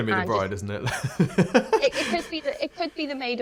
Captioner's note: laughs